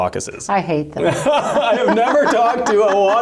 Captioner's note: laughter